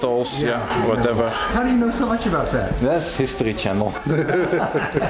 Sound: laughter

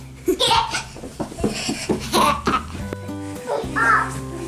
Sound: mom laughing; children laughing

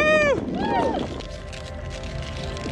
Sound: skating sounds

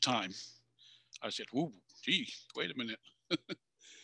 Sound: chuckles

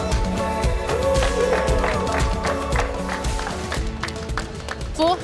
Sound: clapping and cheering

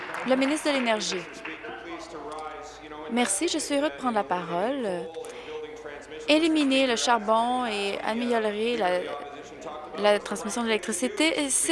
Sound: applause

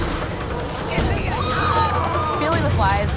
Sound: screams

